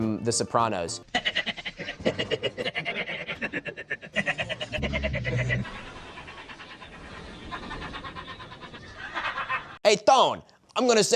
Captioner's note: Paulie 'Walnuts' Gualtieri giggling it up